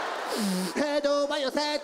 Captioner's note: audience laughs; snorts